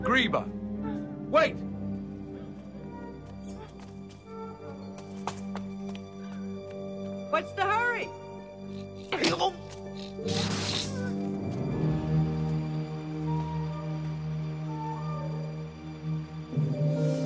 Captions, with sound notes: - Griba, wait! - What's the hurry? (shucking) (gasping) (Kiog snorting) (slow, tense orchestral music)